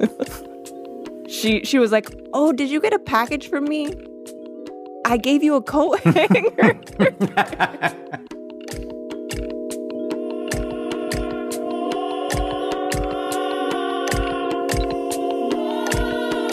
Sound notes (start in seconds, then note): 0.0 laughs; 5.9 both laugh